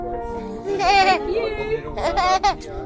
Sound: giggles

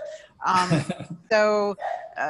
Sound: laughs

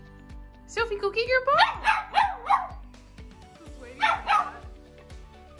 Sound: Sophie barks

